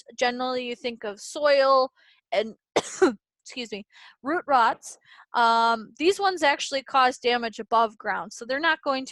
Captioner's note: coughs